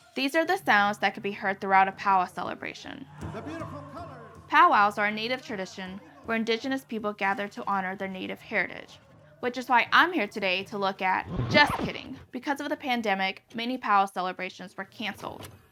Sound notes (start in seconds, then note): 11.1 vinyl record scratching